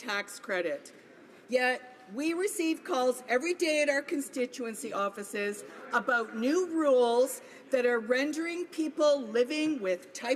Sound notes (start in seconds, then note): none